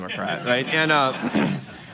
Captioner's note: laughter